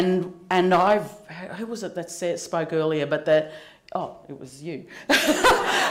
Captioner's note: laughter